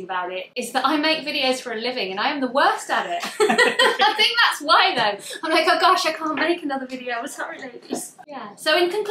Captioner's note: laughs